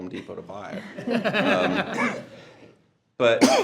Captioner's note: board laughing